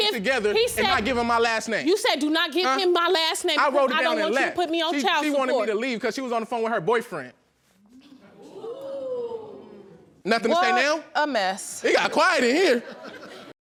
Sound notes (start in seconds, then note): 8.2 audience exclaiming in shock; 12.6 audience laughing